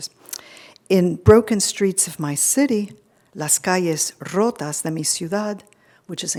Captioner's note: speaking foreign language